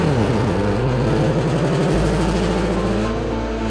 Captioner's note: engine revving